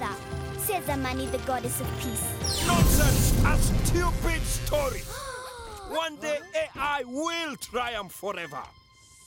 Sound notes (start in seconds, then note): 5.1 children gasp